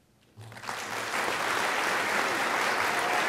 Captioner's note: audience clapping